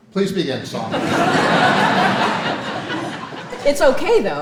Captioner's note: audience laughing